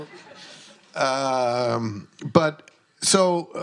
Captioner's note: audience laughs